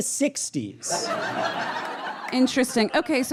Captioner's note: audience laughs uproariously